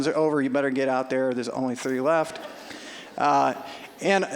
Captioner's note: audience laughing